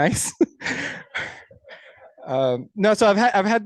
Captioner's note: laughs